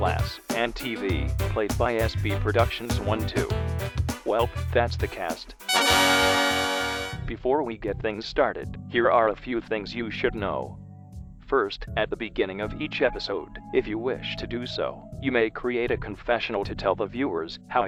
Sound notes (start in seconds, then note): 5.6 celebratory sound plays